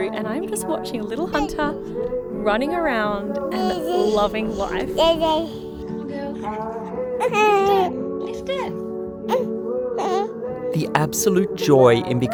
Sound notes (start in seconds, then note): 5.1 babbles